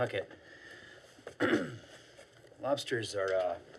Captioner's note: clears throat